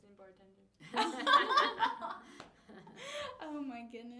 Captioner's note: all laughing